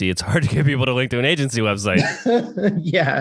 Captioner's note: laughs